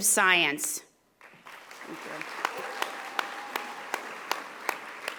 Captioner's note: audience applauding